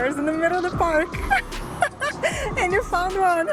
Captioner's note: laughs